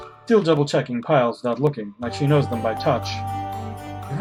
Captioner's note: none